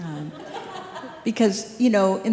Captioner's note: group laughing